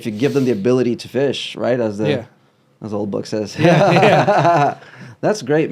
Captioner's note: laughs